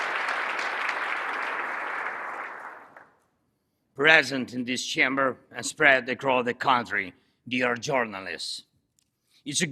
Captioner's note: applause